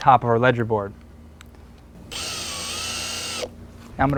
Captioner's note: drill whirring, no additional audio